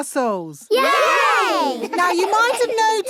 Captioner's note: laughing